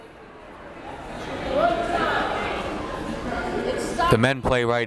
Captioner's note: crowd members talking